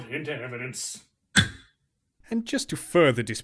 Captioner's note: gavel